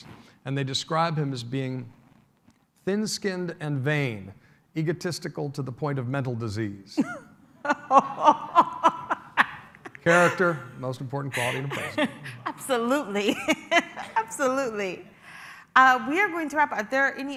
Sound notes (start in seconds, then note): 7.6 laughter